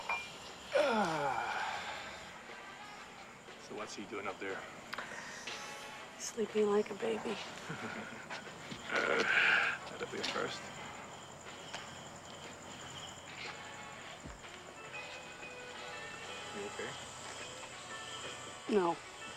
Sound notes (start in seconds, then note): 7.3 chuckles